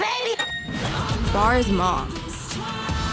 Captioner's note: bell dinging